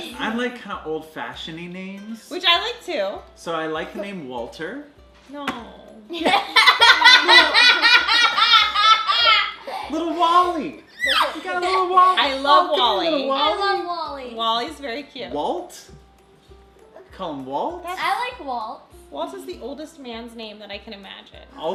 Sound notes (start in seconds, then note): 6.2 laughing